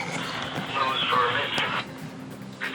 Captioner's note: weather radio chatter in the background